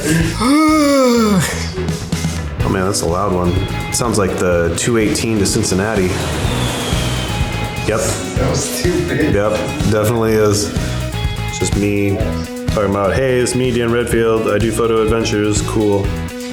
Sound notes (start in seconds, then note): 0.0 laughing; 0.0 groaning; 5.9 airplane whooshing